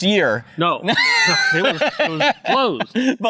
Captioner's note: laughing